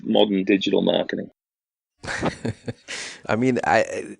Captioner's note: laughs